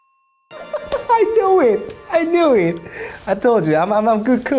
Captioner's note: laughs